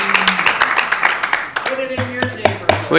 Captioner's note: applause